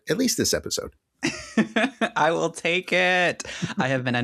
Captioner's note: laughing